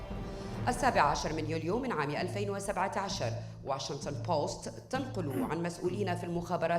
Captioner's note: female speaking in foreign language